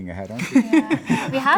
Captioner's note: laughing